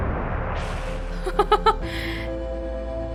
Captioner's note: laughs